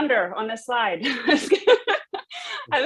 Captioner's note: laughing